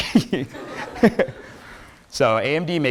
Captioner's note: students laughs